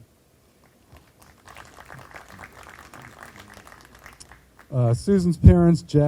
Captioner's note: group applauding